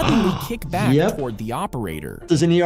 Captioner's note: gasps